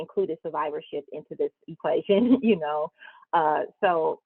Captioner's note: chuckles